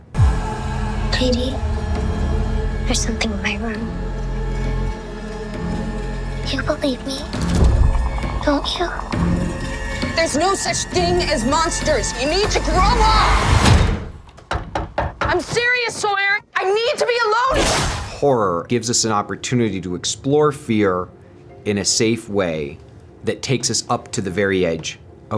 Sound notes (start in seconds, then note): 8.5 creature mildly growls; 14.4 door thuds; 14.4 fist knocking; 17.5 door whooshes